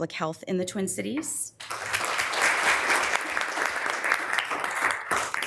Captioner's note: members applauding